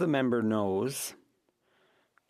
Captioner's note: speaking FRENCH